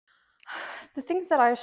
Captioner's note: sigh